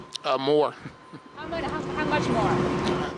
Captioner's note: laughter